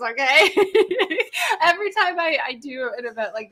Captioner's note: laughing